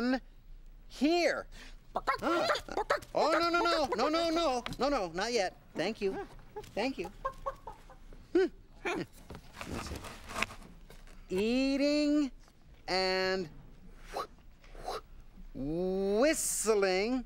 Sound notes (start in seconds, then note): 1.9 clucking